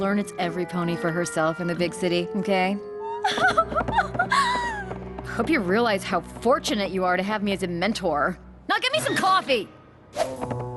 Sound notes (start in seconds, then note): 3.0 sobbing